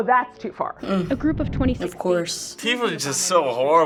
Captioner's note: voice-over